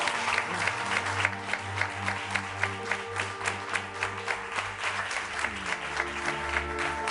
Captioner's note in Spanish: aplausos